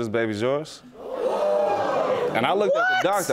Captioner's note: audience gasping